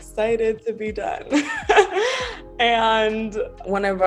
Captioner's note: laughs